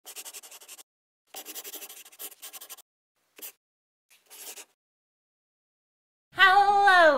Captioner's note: the sound of a pen scratching